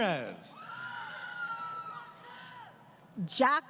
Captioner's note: crowd Cheering